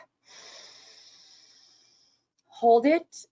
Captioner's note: breathing heavily